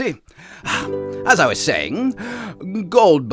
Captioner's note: piano music resumes; exhales